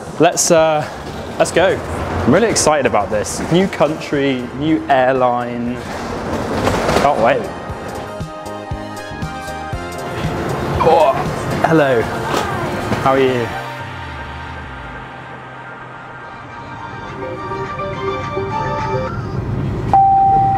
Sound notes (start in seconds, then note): 12.2 grunts; 17.4 upbeat music; 19.8 beeping